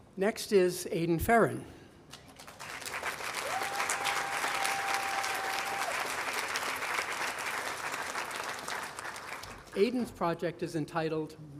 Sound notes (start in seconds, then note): 2.4 audience applauding